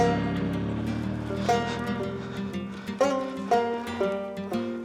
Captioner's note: engines running